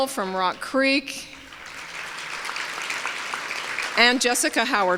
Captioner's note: applause